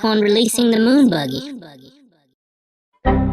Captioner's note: echo: buggy, buggy